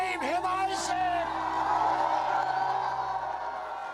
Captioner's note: gente vitoreando